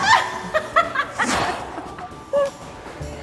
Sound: laughs

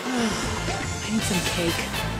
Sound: sigh

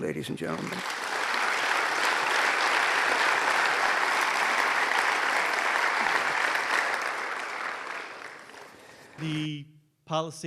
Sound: applause

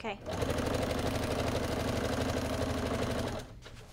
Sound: machine whirs

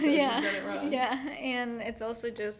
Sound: laughing

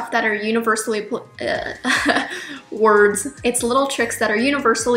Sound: laughs

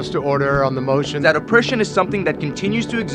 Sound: voiceover

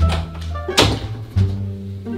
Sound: door shuts

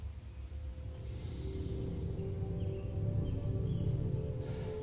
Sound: humming sound

